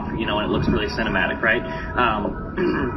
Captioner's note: clears throat